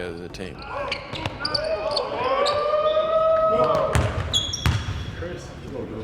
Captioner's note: team chattering and cheering